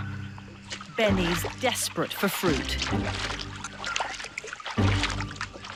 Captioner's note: water rustling